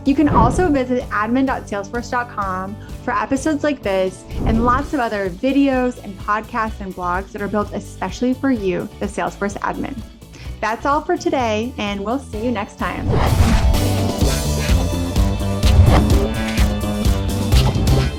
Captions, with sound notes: You can also visit admin.salesforce.com for episodes like this and lots of other videos and podcasts and blogs that are built especially for you, the Salesforce admin. That's all for today. We'll see you next time. (logo whooshing) (lively upbeat music)